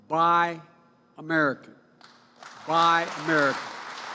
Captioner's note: applause